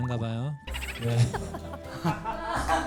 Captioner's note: laugh